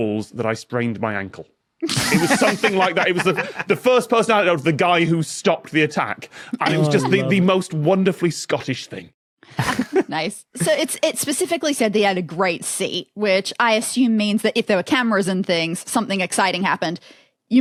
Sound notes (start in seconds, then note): 1.8 guests laughing; 9.6 giggles